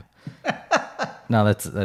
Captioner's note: laughing